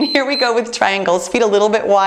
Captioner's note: timer beeps